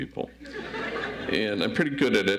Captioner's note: audience laughs